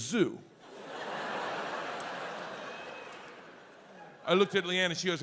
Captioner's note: audience laughs